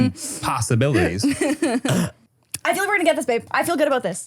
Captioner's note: laughs